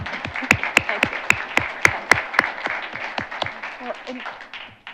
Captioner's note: audience applauding